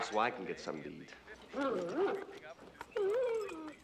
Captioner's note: whimpering